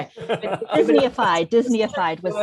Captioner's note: all laughing